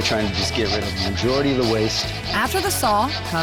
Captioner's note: sawing sound